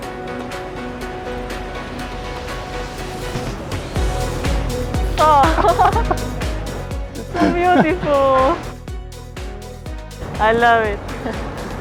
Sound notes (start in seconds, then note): 0.1 upbeat music; 7.1 laughs